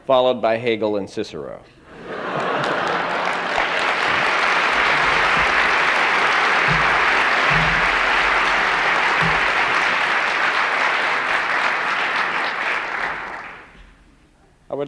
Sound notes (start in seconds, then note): 1.9 laughter and applause